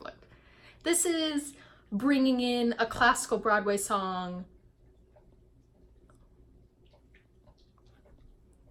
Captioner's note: dog licking his foot